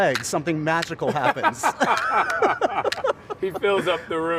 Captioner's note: laughing